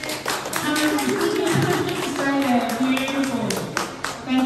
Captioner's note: applause